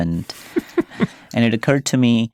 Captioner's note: chuckling